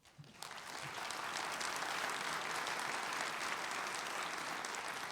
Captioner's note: audience applauding